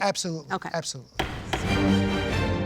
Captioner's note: gavel banging; momentous string music